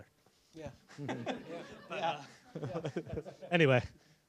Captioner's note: laughter